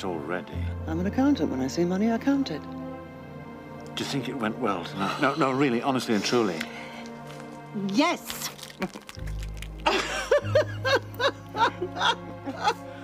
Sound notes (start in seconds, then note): 7.8 egg crackles; 9.8 laughs